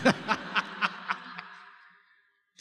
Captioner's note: laughter